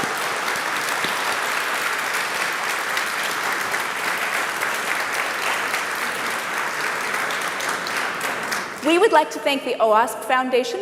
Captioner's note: applause